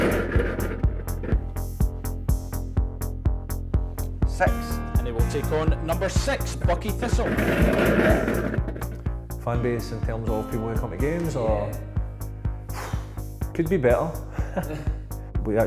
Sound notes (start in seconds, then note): 0.1 balls rattling; 7.8 balls rattling; 14.2 chuckles